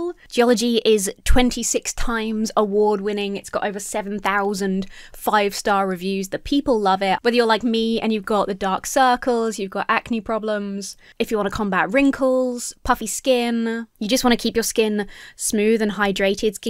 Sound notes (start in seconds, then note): none